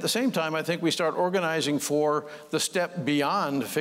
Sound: none

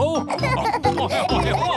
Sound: laughing

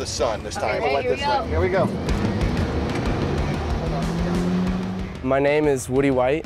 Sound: boat motor

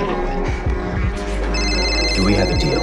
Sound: phone sounds

